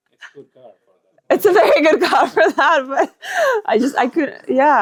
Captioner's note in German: lacht